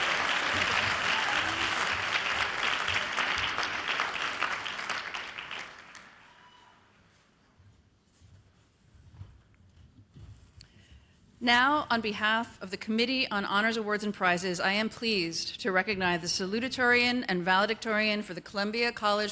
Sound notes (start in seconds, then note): 6.6 applause